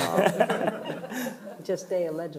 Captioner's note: panelists chuckling